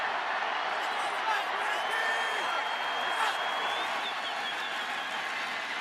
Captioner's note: cheering